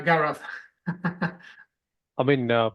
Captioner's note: laughs